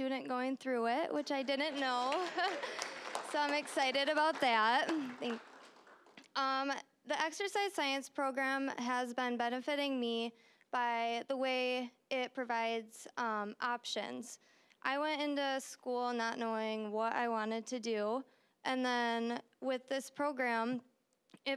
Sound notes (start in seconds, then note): 1.2 applause; 2.0 audience laughing